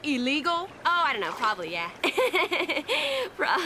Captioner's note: giggling